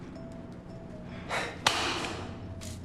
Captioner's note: sigh